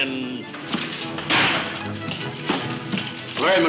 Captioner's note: door slams